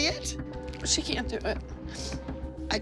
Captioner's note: sniffles